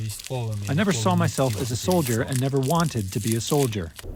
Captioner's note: through translator